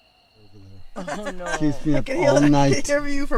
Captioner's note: everyone giggling